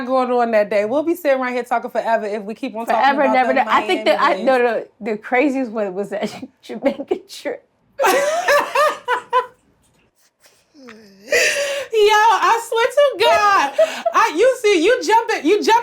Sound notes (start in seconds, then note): 8.0 Blac Chyna laughs; 8.0 Treasure laughs